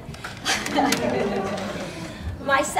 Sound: laughing

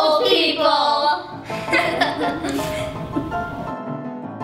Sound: laughing; piano music

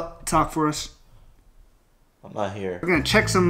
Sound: silence

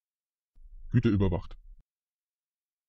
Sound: fast Pronunciation

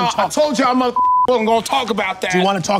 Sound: beep

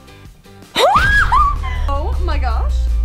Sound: screams

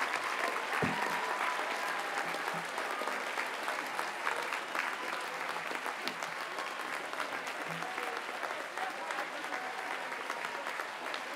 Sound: audience cheers and applauds

